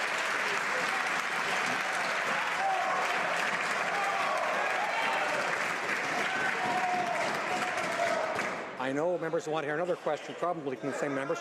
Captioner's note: some Applause